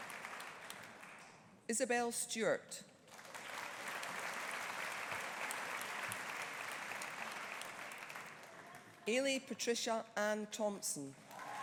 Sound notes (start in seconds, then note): 3.1 audience applauding